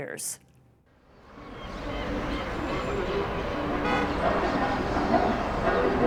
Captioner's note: traffic rumbling, horns honking